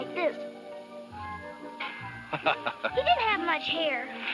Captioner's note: laughs